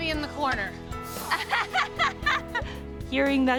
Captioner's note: laughs